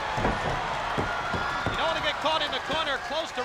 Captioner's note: spectators cheering